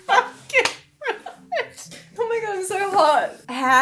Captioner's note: laughing